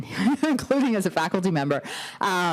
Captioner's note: laughter